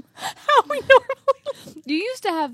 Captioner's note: laughs